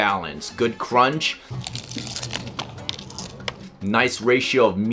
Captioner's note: loud Crunching